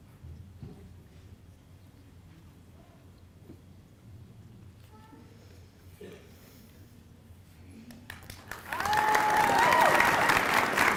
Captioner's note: applause